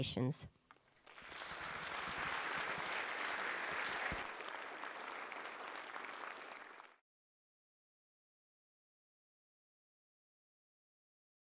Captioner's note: applause